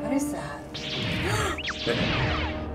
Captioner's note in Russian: шум светового меча; изумлённый вздох